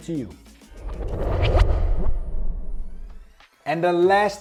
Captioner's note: air whooshing